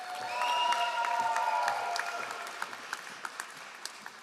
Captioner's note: all applauding